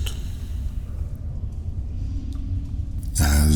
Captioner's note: cave noises